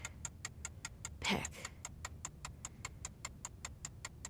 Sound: clock ticking

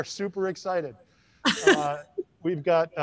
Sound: giggles

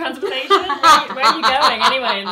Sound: laughs

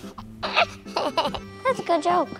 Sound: laughs

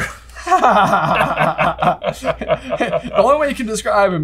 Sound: laugh

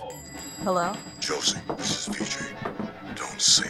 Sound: bell on the door rings; man on the phone

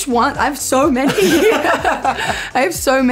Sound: laughter

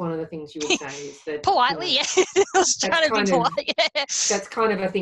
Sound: laughs

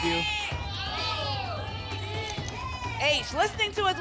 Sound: audience shouting letters

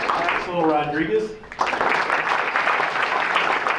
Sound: applause

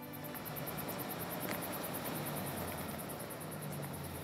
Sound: gentle music; car engines revving; insects chirping

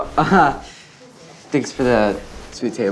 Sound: chuckles

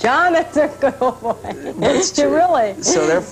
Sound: laughing; laughter

